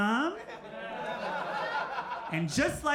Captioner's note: crowd laughs